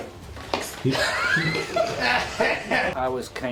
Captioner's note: laughs